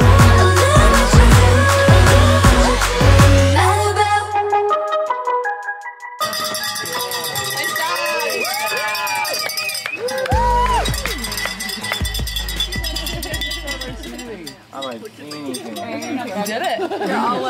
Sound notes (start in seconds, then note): 6.2 cheering